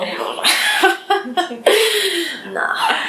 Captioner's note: laugh